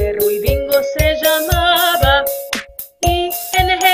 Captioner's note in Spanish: clap